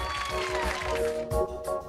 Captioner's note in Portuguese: Aplausos